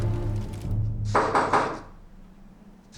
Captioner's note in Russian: стук в дверь